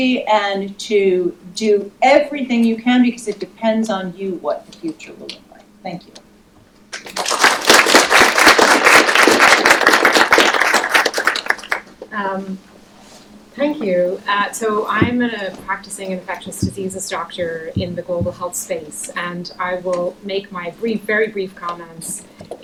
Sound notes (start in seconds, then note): 9.7 applause